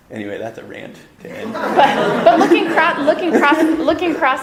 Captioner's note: audience laughter